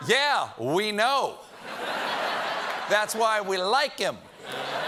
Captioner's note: laughter